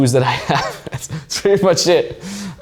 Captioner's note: chuckles